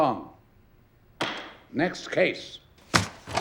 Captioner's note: gavel bangs